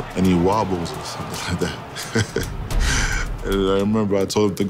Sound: laughs

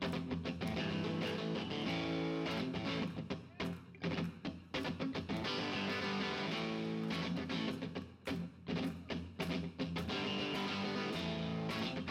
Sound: audience claps in time

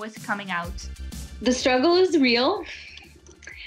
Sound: laughs

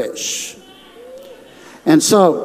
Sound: audience shouting

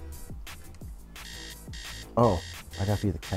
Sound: alarm ringing

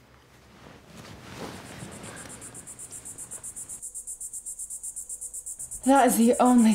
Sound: cicada sounds

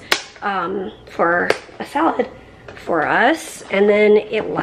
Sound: none

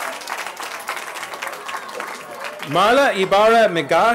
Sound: cheering

